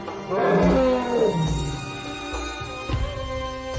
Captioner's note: elephant trumpets